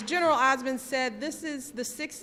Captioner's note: applause